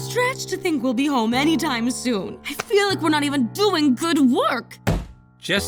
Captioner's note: none